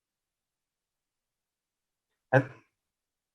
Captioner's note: lost sound